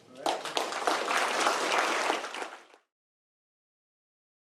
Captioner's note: applause